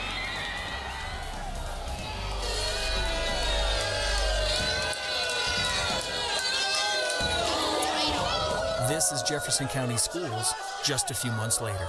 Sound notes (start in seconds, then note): 0.1 students cheering; 3.3 crowd booing